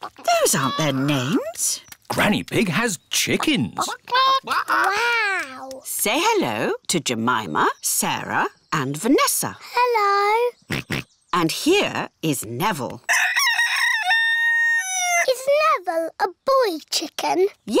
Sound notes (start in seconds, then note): 10.7 george oinks; 13.0 rooster crows